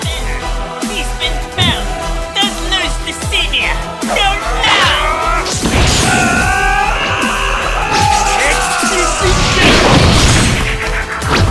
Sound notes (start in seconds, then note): 4.4 screams